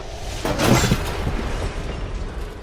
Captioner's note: crash